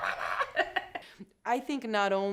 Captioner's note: laughing